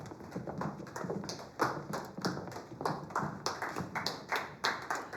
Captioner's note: audience applauding